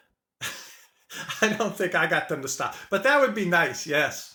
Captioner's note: chuckles